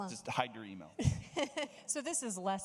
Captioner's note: laughing